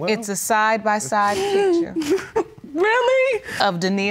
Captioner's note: sobbing